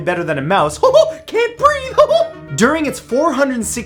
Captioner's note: chuckles